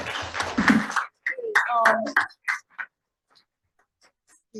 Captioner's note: audience applauding